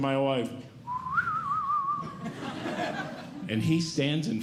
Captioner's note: whistling